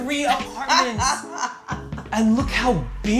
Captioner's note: laughs